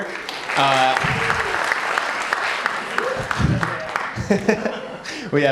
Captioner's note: applause